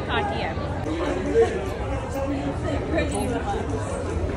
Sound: indistinct chatter

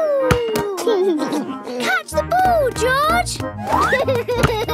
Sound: giggles

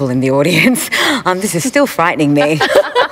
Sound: laughter

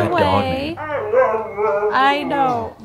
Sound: dog whining

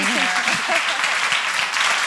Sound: audience applauds

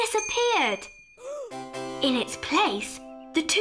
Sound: Imelda gasps

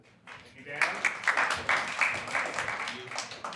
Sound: applause

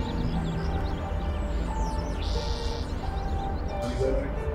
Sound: mysterious music; air whooshing; mysterious music

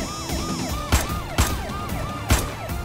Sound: siren wailing

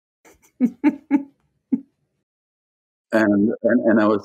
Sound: laughing

